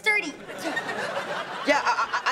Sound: laughing

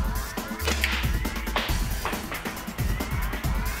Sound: thwack

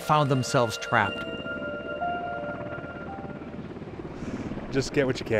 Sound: helicopter blades whirring

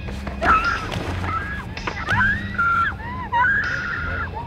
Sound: woman screaming

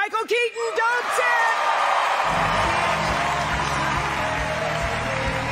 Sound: applause

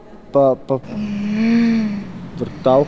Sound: woman sighs

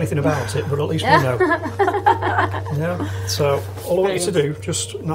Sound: laughing

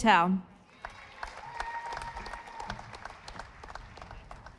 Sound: audience applauding

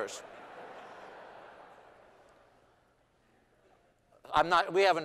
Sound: laughter

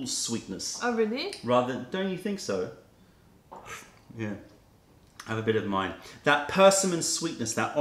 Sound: sips tea

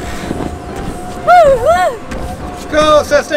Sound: feet stomps

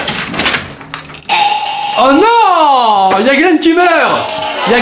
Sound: throat noise

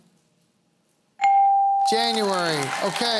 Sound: applause

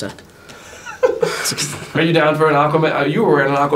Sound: laughing

